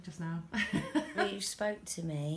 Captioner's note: laughter